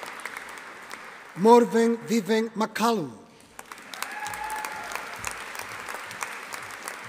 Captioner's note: audience applauding